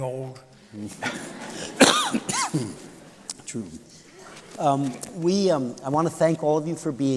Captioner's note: laughter